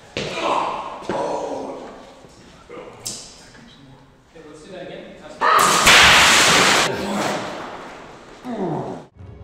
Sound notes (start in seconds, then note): 0.2 grunting; 5.6 shattering glass